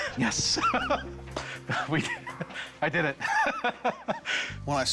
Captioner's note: relieved laugh